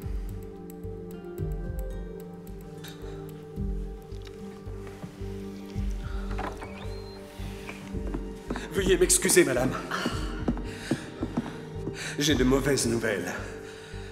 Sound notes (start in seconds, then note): 6.1 door creaks